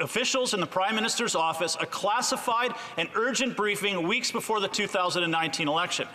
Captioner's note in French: voix de l'interprète